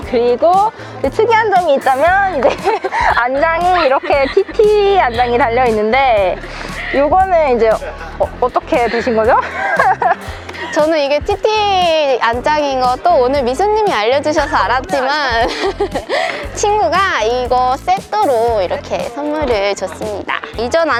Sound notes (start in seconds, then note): 8.8 laughter